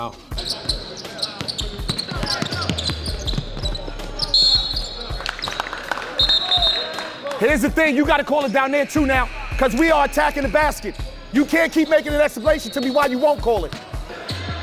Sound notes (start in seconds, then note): 0.2 overlapping chattering; 4.2 whistle tweets; 5.1 audience applauds; 6.1 whistle tweets; 14.4 overlapping chattering